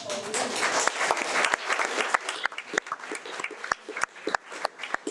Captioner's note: audience applauding